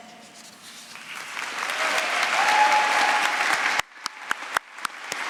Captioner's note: applause